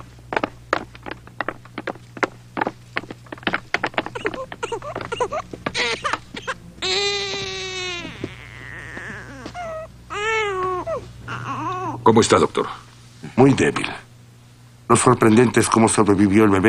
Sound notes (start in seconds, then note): 4.1 baby whimpering; 5.9 crying